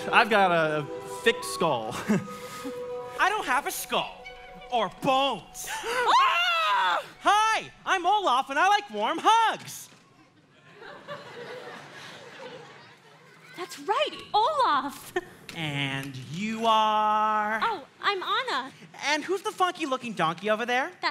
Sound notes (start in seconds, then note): 5.6 Anna and Kristoff yell; 5.9 Anna and Kristoff gasp; 10.4 audience laughing